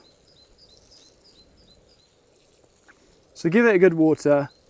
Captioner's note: water swishing